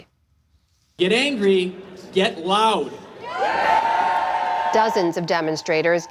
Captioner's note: cheering